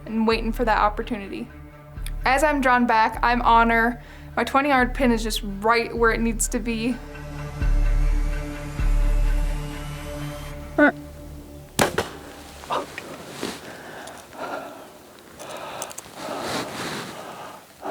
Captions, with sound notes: and waitin' for that opportunity. As I'm drawn back, I'm on 'er. My 20 yard pin is just right where it needs to be. (suspenseful music continues) (bowstring thuds)